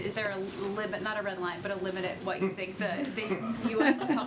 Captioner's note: laughter